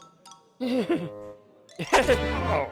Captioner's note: laughs nervously